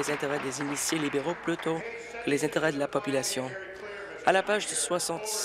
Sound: applause

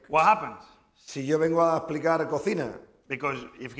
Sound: speaking spanish

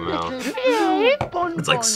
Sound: laughs

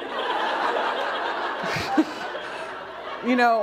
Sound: laughter

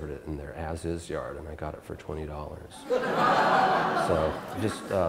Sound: audience Laughter

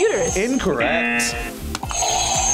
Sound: buzzer rings; buzzer

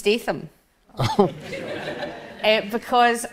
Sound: audience laughs

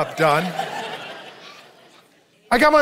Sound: audience laughs

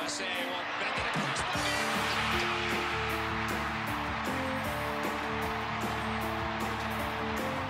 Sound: cheering; tv announcer

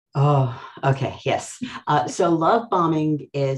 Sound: sighs

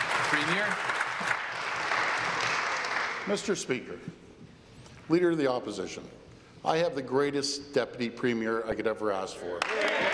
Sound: applause

